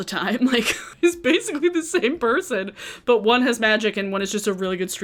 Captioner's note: laughs